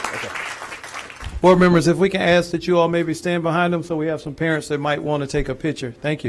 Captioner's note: applause